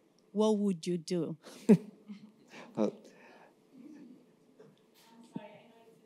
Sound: laughs

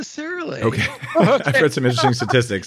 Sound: laughs

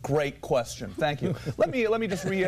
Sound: laughter

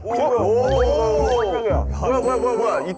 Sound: startled

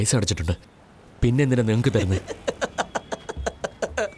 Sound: laughing

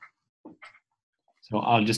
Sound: pause

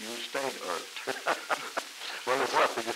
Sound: laughter

